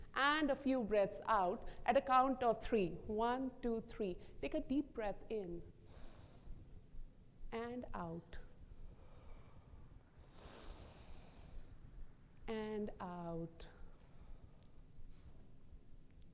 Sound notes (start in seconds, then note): 5.8 inhales; 8.9 exhales; 10.2 inhales; 14.0 exhales